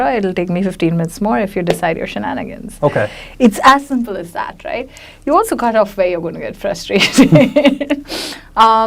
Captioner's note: laughs